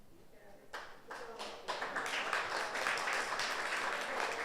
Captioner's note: audience applauds